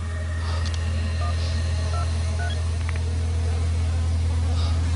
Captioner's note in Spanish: Sonido al marcar